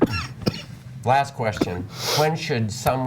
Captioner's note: coughing